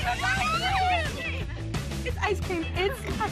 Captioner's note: all exclaim happily